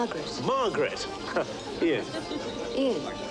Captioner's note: chuckling